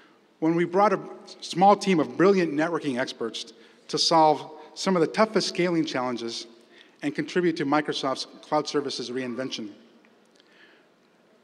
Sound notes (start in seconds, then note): none